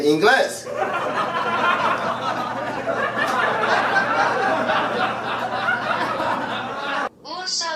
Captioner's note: laughter